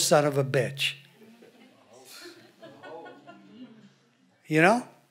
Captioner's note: audience laughs